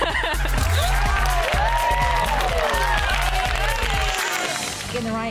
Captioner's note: laughs; camera snaps